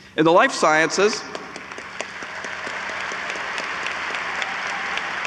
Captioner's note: audience applauds